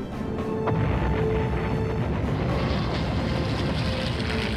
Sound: artillery exploding

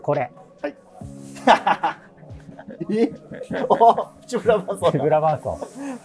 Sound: laughing

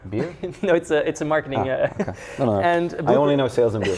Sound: laughs

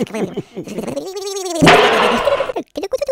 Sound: slam

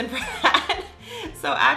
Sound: laughing

